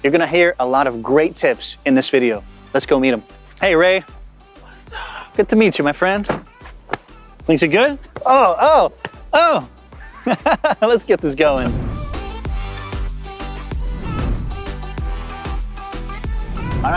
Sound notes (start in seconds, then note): 10.0 laughs; 12.2 upbeat music